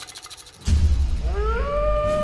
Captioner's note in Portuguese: Uivo distante